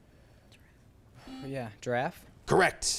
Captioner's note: buzzer chimes